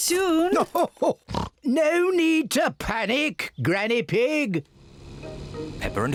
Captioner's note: oinks